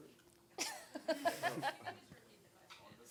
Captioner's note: laughing